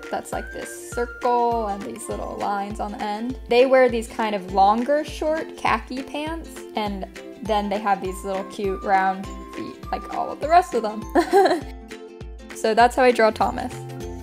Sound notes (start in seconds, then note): 11.1 laughing